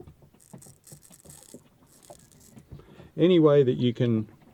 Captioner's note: scraping sound